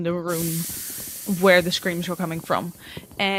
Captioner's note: sizzling sounds